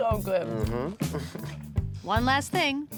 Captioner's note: laughs